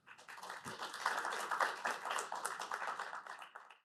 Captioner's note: audience applauding